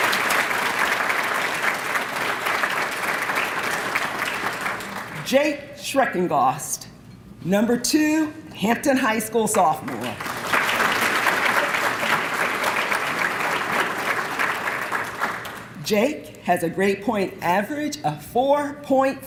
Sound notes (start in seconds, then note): 0.0 applause; 9.8 applause